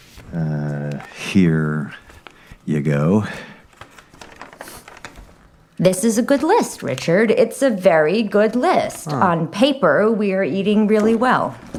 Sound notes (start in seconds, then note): 3.1 paper rustling